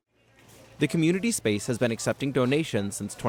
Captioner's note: voice-over